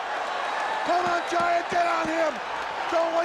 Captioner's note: crowd cheering